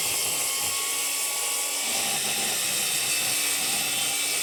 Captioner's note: whirring continues